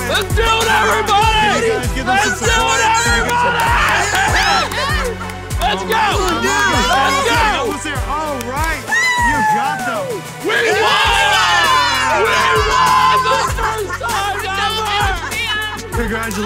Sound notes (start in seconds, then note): 4.0 shouting